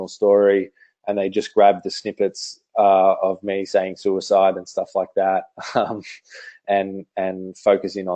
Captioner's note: laughs